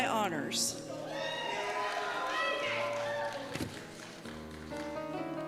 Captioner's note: cheers and Applause